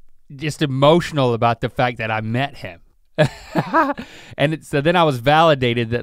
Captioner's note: chuckles